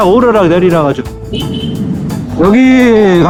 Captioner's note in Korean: 클락션 소리